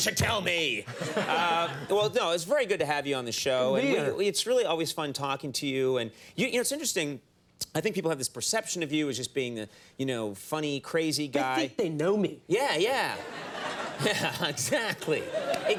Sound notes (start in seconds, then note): 1.1 fist slams desk